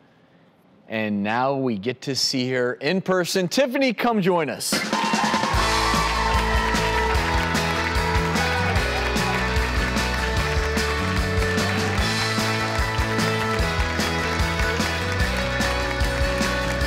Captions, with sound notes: and now we get to see her in person. Tiffany, come join us! (applause) (upbeat music)